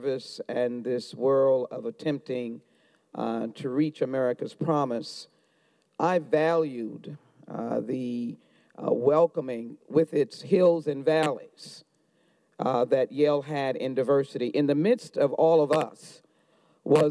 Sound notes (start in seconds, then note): none